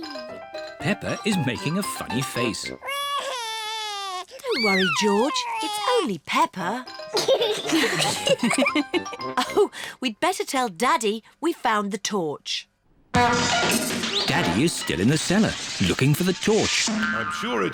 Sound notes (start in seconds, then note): 2.8 cries; 7.3 all laugh; 13.1 crashing